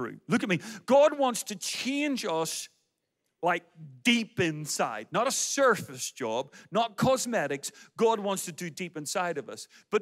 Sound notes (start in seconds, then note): none